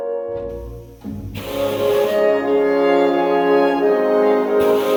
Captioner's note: torch hissing